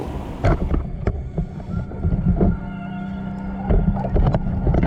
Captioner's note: muffled clanging